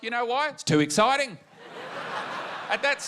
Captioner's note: laughter